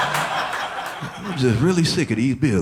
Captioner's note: audience laughing